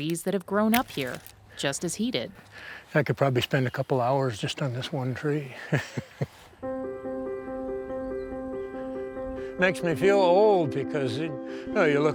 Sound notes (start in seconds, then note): 5.5 chuckles; 6.6 somber music